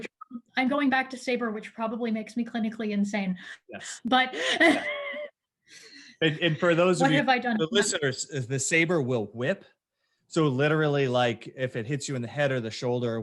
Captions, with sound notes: which probably makes me clinically insane. - Yes. - But (laughs). - And for those who do, the listeners if the sabre will whip so literally like if it hits you in the head or the shoulder